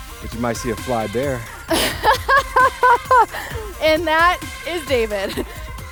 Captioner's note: laughs